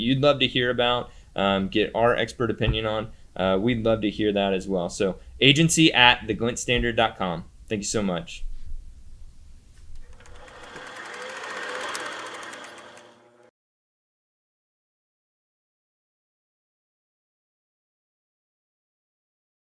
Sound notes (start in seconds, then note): 9.9 camera rolls